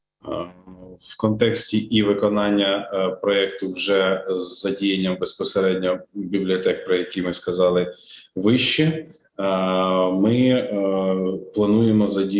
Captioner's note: foreign Language Spoken